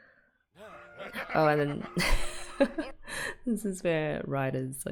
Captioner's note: laughs